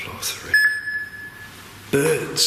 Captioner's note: machine beeps